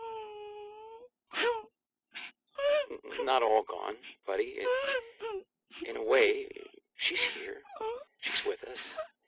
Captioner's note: crying